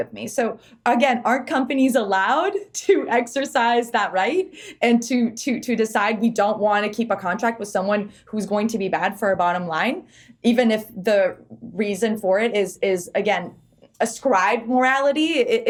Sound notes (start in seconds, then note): none